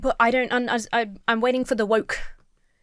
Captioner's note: stammers